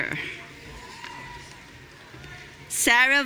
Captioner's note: audience cheering